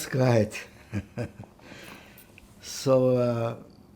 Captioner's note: laughing